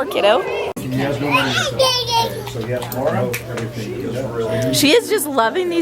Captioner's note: babbling